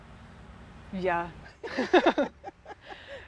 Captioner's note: laughs